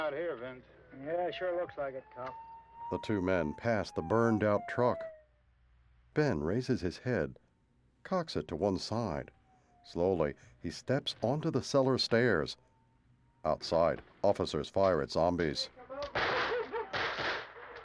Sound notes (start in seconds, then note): 5.5 siren wailing in distance; 14.2 men shouting, dogs barking